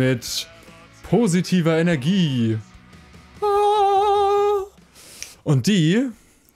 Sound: enlightened noise

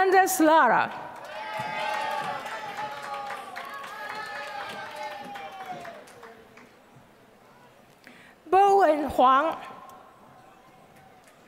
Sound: applause

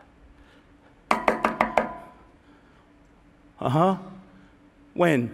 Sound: knocking

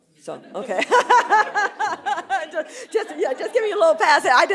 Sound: laughter

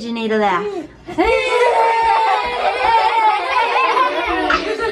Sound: children shouting and laughing

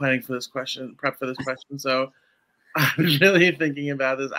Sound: laughs

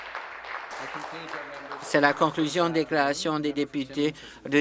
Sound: cheering; applause

